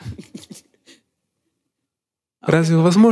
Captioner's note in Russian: Смеется